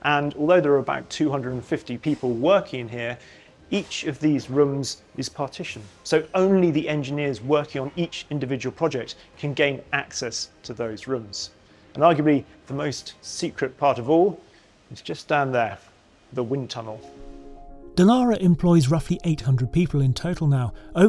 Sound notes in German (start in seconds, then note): none